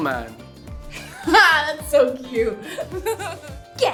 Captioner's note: laughs